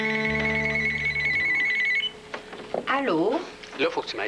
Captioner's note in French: Le téléphone sonne